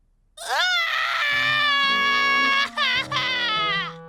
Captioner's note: crying